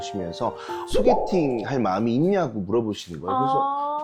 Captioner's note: out-of-nowhere sound effect